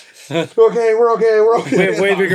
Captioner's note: laughing